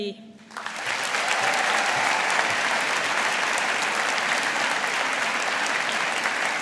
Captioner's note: audience applauding